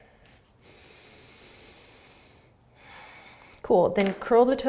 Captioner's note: exhaling; inhaling and exhaling